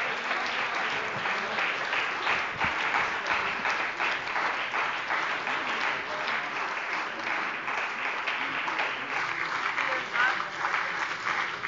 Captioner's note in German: Starker Beifall bei dem BÜNDNIS 90/DIE GRÜNEN und der SPD